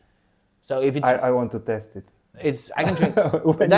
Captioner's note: laughs